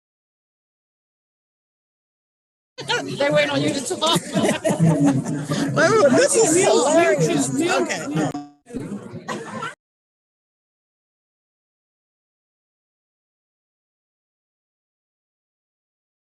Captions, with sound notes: - Okay, done. They wait on you just to vomit. - (laughs) Wait, wait, this is hilarious. - I mean, you choose new. - Okay, oh. (participant laughs)